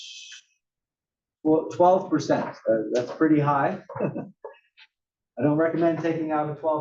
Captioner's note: laugh